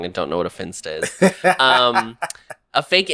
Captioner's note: laughs